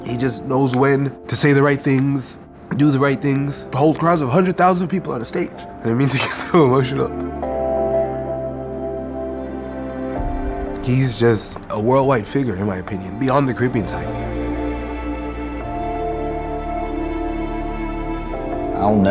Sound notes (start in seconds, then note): 6.0 laughing gently; 7.9 gentle oscillating music continues; 16.0 gentle oscillating music continues